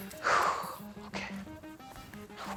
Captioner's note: sighs